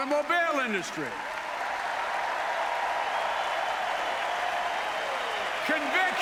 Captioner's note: applause